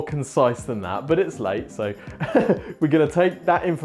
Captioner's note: laughs